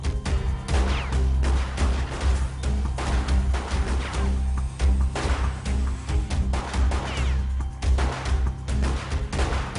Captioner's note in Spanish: Disparos